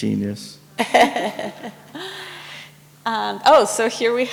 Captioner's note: laughs